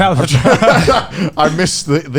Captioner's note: all laughing